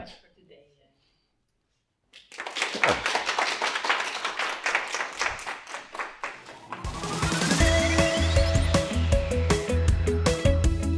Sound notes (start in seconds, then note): 2.1 applause; 6.6 outro Music